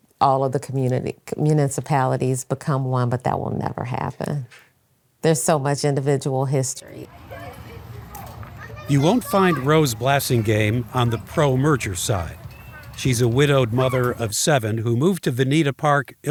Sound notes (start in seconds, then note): 7.0 children shouting and chattering